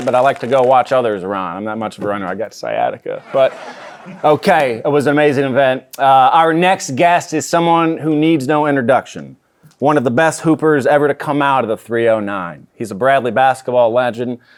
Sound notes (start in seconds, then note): 3.2 audience laughing